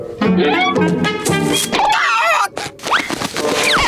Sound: screaming

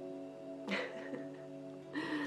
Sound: laughs

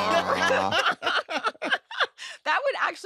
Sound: laughter

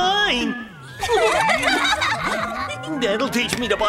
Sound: triplets giggle

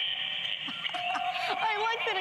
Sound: laughter

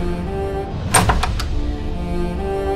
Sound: doors opening

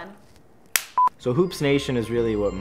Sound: beep

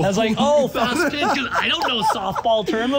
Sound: person laughing

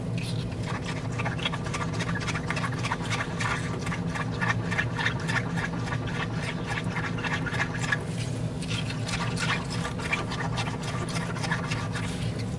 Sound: scribbing sounds

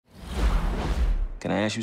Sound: whooshing

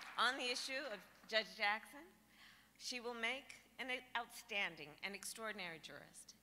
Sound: applause

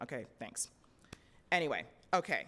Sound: hands tapping

